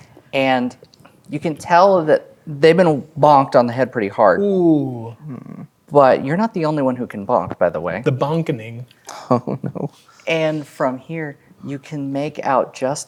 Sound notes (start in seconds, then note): 9.1 chuckling